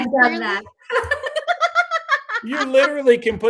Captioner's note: laughing